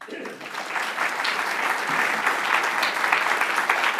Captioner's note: applause